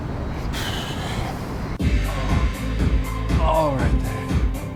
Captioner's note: Helden sighs